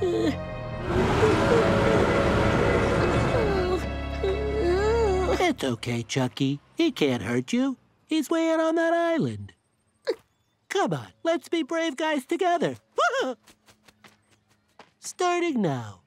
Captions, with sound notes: [roaring] It's okay, Chuckie. He can't hurt you. He's way out on that island. Come on, let's be brave guys together. Aah! Starting now.